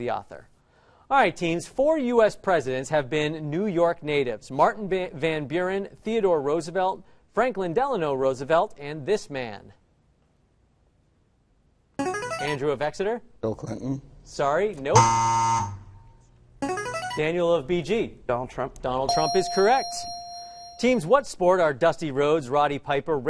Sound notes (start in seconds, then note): 12.0 answer bell; 14.9 wrong answer buzzer; 16.6 answer bell; 19.1 correct answer chime